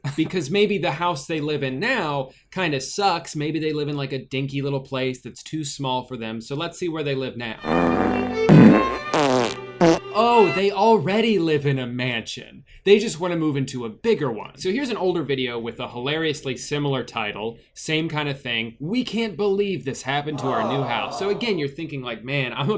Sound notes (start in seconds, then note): 7.6 farting; 7.6 classical music; 20.3 crowd